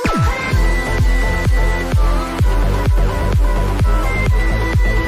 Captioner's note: bounce platform bombing